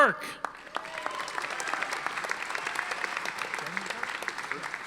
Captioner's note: audience applauding